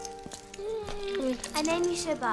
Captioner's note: dog whines